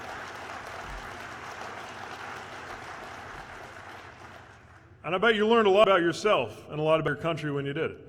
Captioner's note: applause